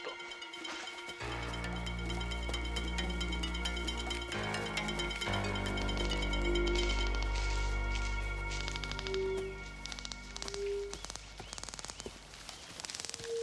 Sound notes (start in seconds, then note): 1.7 ominous music; 7.0 detectors clicking